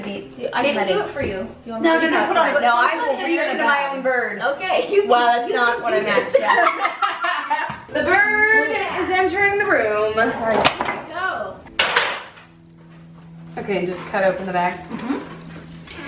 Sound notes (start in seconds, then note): 6.2 laughing